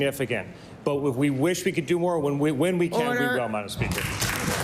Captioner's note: applause